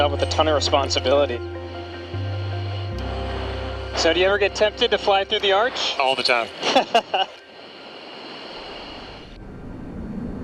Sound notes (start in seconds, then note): 1.7 pensive music; 6.4 laughs; 7.6 jet whooshing